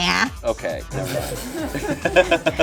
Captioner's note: laughs; laughing